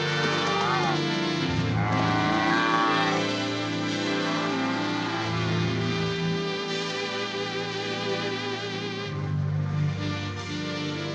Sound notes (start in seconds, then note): 1.7 cow moos